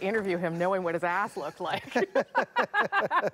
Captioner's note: laughter